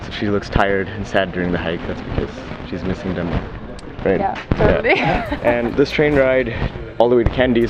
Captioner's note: laughs